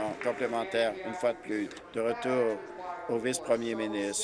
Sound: applause

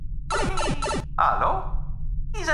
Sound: Super Mario Bros. warp pipe effect

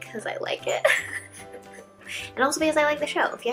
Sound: laughs

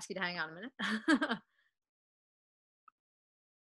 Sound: chuckling

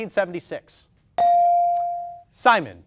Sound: ding

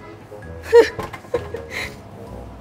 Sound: laughs

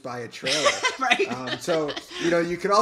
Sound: laughs

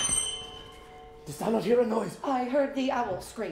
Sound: shriek

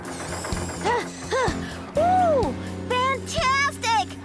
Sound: panting

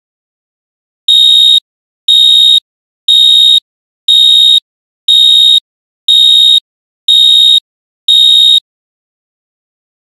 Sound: sound of alarm

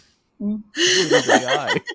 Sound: laughter

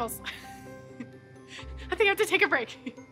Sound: laughter; laughter

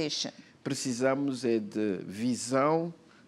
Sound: speaking portuguese

